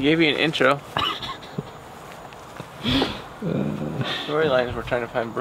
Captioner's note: chuckles